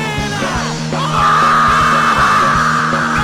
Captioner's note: yelling